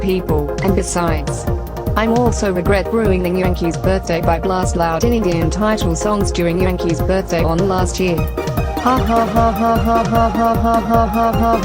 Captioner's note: laughs